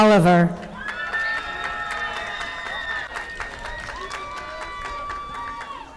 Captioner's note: audience applauding